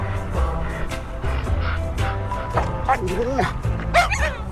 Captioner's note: dog panting; dogs barking